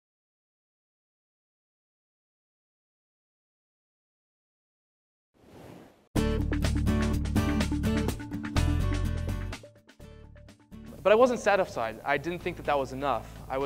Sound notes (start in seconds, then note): 0.0 no audio